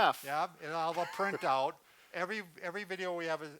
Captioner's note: laughs